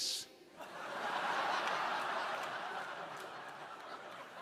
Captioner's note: crowd laughing